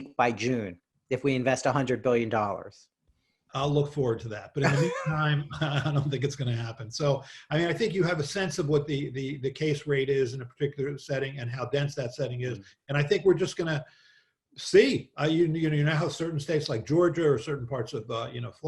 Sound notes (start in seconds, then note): 4.6 laughs